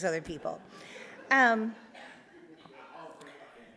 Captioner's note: audience laughs